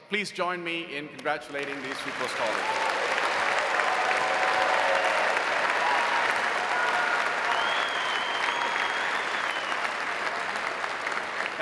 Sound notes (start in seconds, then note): 1.6 audience cheering; 3.0 audience applauding